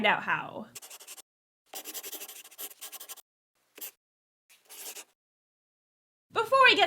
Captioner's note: the sound of a pen scratching